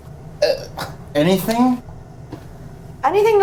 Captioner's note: scoffs